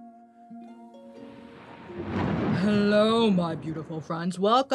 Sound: thunder rumbling

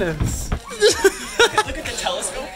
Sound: laughs

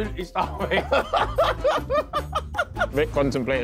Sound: all laughing

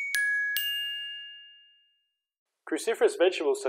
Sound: chimes

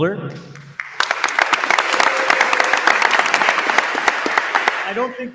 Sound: attendees applauding

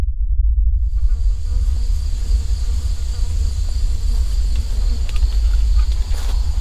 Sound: insects chirring; flies buzzing

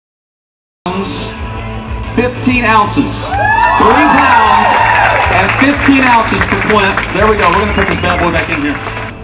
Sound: applause from audience

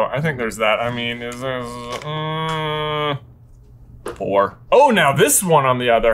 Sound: groans

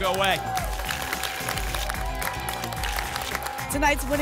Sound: tickets shuffling

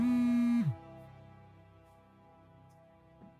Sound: phone buzzing

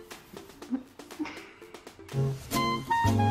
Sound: girl giggling; upbeat jazz music

